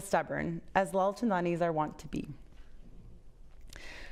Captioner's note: foreign language